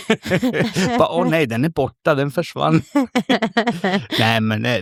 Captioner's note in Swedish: skratt